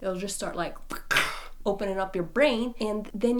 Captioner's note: cracking